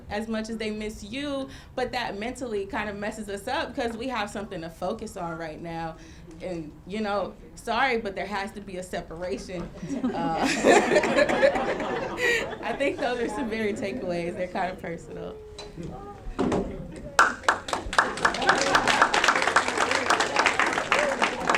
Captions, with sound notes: as much as they miss you, but that mentally, kinda messes us up 'cause we have something to focus on right now, and sorry, but there has to be a separation. (laughing) I think those are some very good takeaways, they're kind of personal. (audience clapping and laughing)